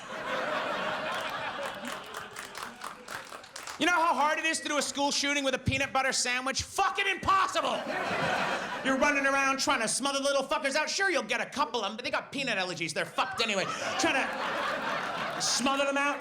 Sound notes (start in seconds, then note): 0.0 audience laughs and applauds; 7.6 audience laughs; 13.1 audience laughs